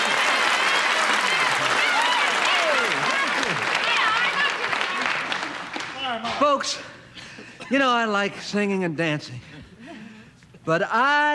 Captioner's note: applause